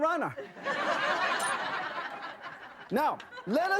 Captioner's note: audience laughter